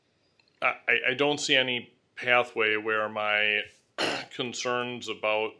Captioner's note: clears throat